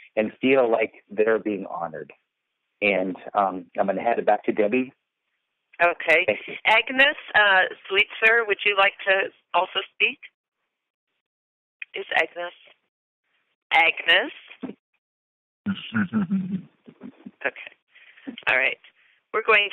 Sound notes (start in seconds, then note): 10.9 silence